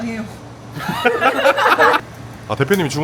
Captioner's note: laughs